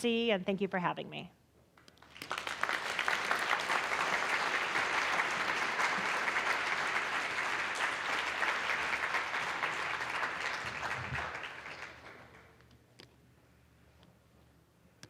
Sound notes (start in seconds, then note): 1.9 applause